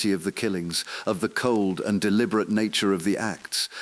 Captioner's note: exhale